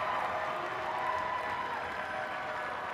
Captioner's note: cheers and applause